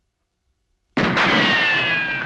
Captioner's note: gunshot ricochet